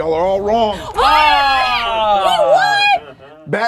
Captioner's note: contestants groaning